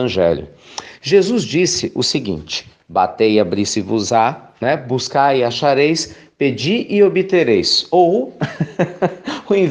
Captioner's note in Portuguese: risos